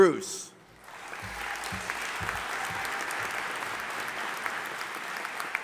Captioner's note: audience applauding